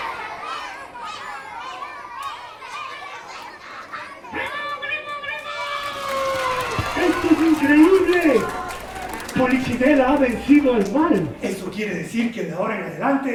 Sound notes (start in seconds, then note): 5.4 applause